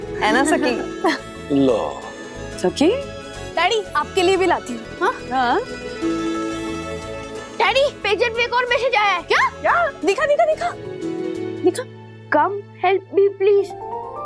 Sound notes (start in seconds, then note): none